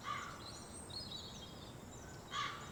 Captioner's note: crow cawing